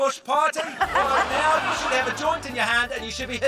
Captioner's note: laughter